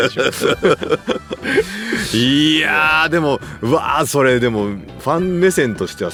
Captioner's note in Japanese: 笑い